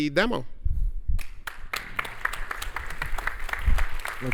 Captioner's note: applause